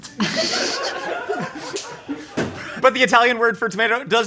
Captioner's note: crew laughing